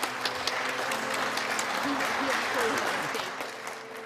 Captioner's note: clapping